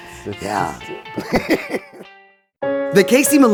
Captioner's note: laughing